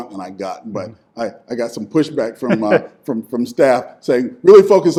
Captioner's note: interviewer laughing